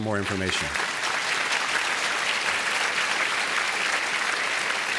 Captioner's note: applause